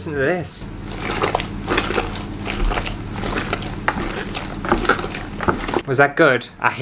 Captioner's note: sloppy squelchy sounds